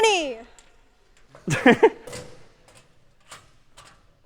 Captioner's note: می خندد